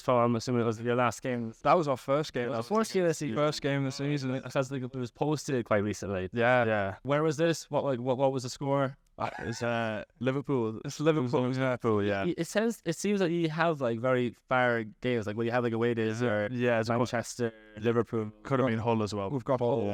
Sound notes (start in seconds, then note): 9.2 laughs